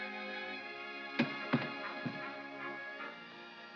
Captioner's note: soft music; stock sets down